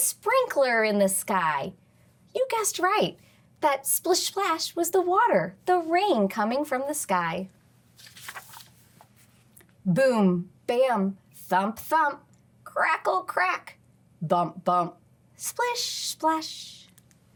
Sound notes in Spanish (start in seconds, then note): 7.9 crujido de página